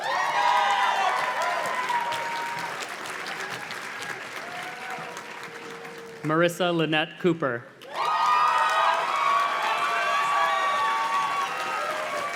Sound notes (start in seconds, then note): 0.0 audience cheers and claps; 7.8 audience cheers and claps